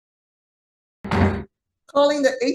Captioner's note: gavel pounds